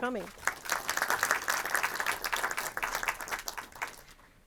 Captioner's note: audience clapping